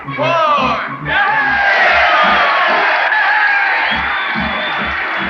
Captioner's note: crowd cheering